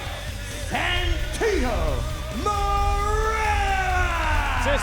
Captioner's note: crowd cheering